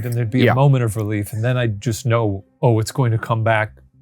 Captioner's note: chuckling softly